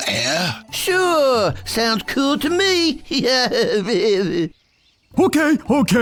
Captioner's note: laughs